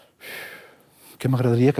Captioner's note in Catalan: suspira